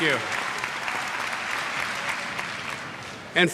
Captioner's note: applause